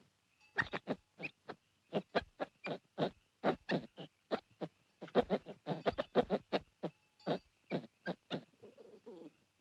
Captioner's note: monkey chitters